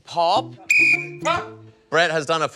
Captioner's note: blows whistle